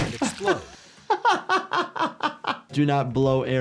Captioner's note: laughing